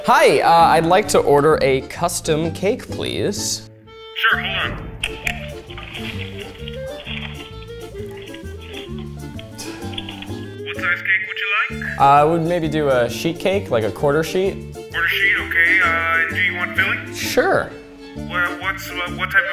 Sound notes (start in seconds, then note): 5.0 whimisical music; 9.4 chuckles